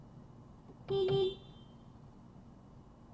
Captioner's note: beepbeep